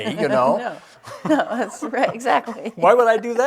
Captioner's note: laughs